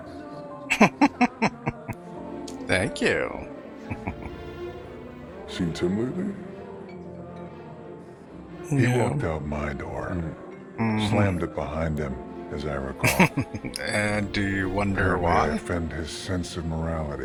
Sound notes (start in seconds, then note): 0.7 laughing; 13.0 laughing